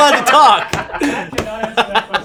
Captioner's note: laughing